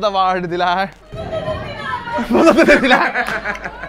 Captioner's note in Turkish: gülüşme